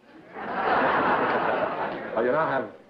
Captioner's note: laughter